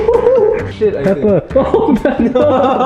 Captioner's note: chuckles